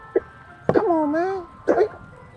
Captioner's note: Franklin chokes